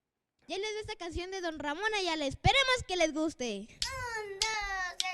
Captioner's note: speaks foreign language